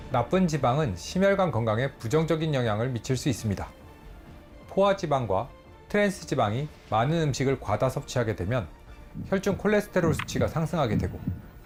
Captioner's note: voiceover